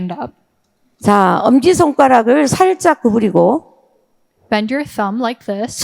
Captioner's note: speaking in foreign language